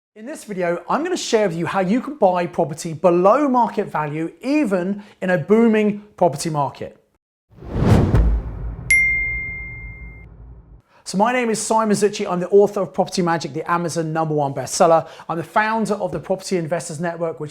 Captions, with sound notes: - In this video, I'm going to share with you how you can buy property below market value, even in a booming property market. (air whooshing) (bell chimes) So my name is Simon Zutshi. I'm the author of "Property Magic," the Amazon number one bestseller. I'm the founder of the Property Investors Network